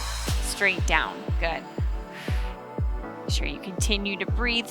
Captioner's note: exhales